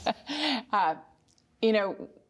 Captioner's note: laughter